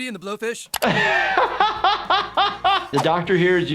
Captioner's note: laughs